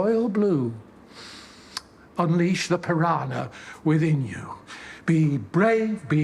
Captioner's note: he inhales